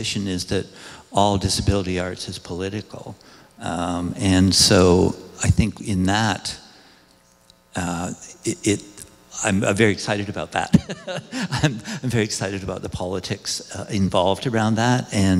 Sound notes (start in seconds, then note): 10.7 laughs